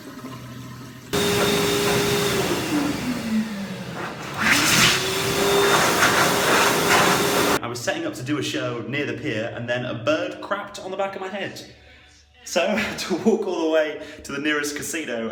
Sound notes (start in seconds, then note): 1.0 air dryer roaring